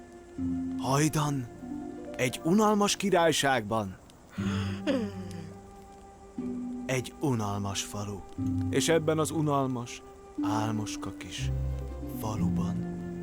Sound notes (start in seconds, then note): 4.3 yawning